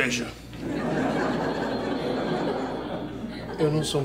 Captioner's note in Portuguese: risadas